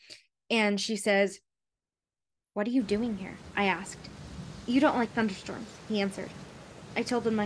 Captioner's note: thunderstorm sounds